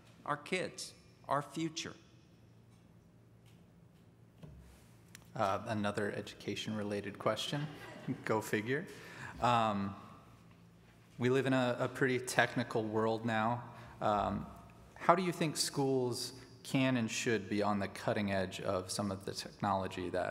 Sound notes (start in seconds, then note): 7.5 audience laughs